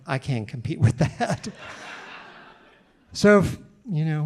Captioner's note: audience laughing